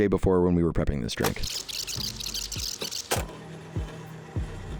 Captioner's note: tape squeaking; machine whirring